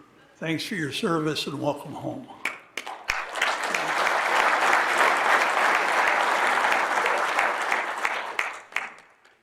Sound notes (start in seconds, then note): 2.8 audience applauding